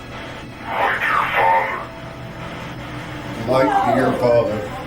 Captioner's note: device speaking